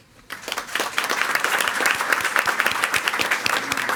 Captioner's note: all applauding